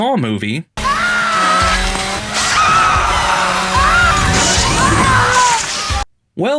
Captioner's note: cries of shock, pain, and horror